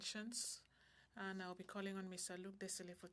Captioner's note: speaking French